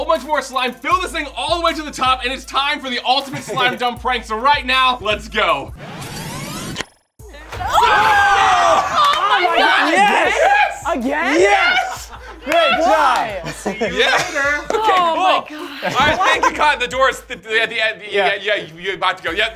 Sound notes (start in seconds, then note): 7.5 screams; 13.1 laughter